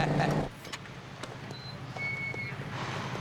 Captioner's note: gate opens